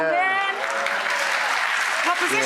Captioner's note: audience applauding